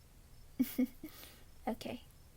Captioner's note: giggles